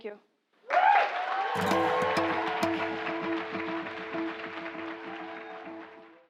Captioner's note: applause